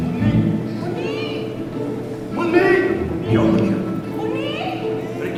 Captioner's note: non-english speech